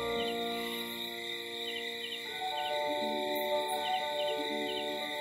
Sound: crickets chirping; soft ambient music

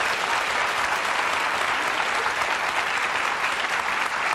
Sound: audience applauding

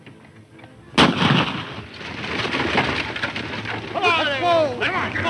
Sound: loud gunshot

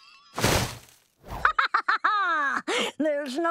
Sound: laughing

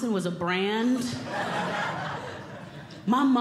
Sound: audience Laughing

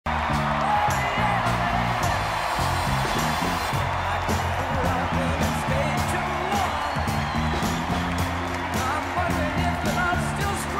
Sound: applause and music

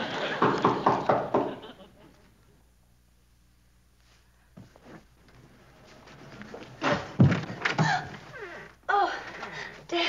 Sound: knocking

